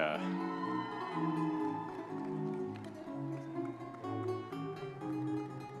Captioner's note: audience members cheering